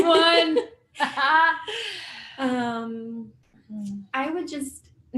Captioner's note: laughter